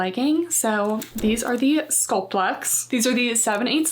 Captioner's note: text clicking